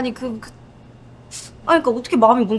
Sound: sighs

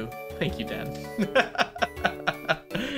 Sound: laughs

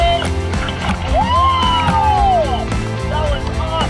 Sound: exclaims

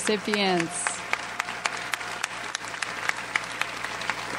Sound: audience applauds

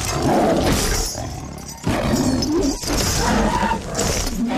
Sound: chains clatter

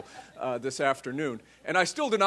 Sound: laughter

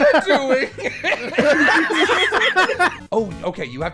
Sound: laughter

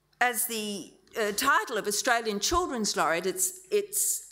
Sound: none

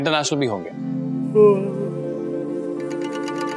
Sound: yawns

